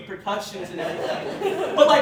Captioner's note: laughter